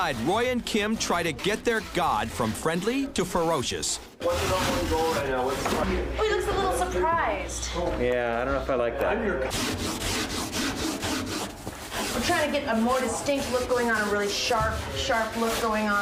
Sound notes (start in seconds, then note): 9.4 aggressively sands